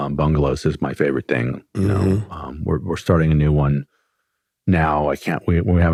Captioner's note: clears throat